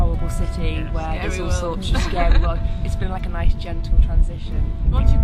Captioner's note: laughing